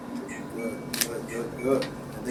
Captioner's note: simulator beeps